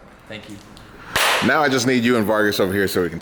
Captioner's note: clap